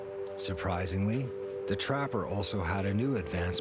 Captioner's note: voiceover